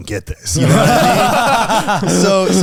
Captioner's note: all laughing